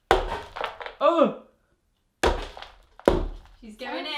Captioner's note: grunting